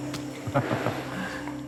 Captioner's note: cameraman laughs